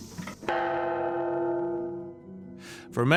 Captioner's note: bell dongs